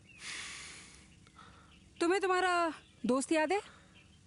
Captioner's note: deep sigh